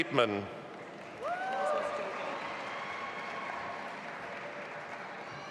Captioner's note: audience applauding